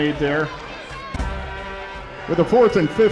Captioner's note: arena Noise